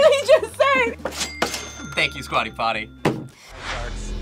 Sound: register dings

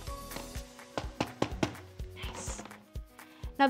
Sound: cheerful music; tapping

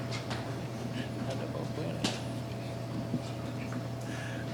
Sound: faintly speaking

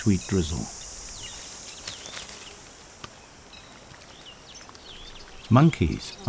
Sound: birds chirping

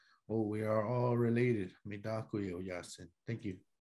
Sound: speaking in foreign language

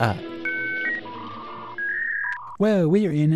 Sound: incoming message alert

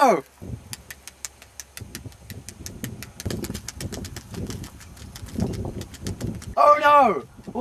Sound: intense tapping

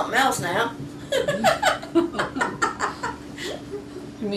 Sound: laughter

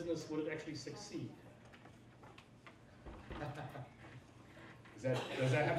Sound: laughs

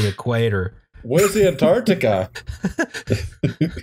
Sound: laughter

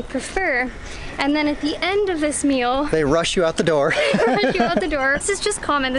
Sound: laughter

